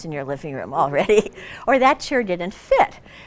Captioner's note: laughs